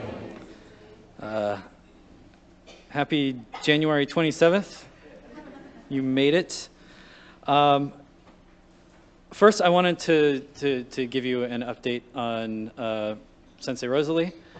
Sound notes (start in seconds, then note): 5.0 light Laughter